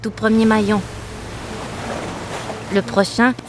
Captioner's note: water splashing